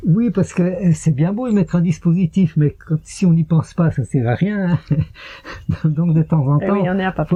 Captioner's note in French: rires